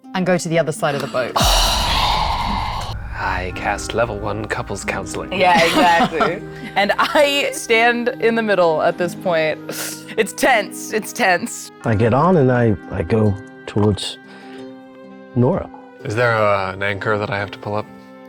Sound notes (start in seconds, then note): 3.2 players scoffing; 5.5 chuckling